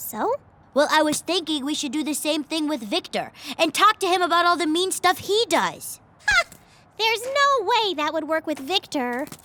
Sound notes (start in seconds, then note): 6.2 incredulous laugh